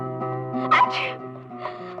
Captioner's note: sneezing